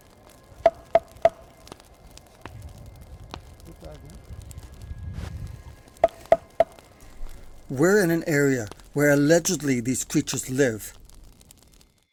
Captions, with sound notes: (Bat thunks) (Fire crackling) - We're in an area where allegedly these creatures live.